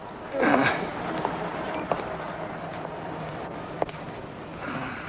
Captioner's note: bottles clinking